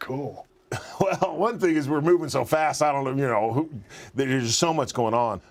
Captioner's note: laugh